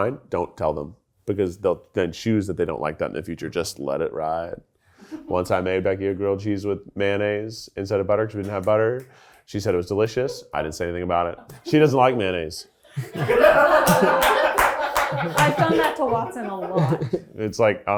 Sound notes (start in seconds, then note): 13.0 everyone laughs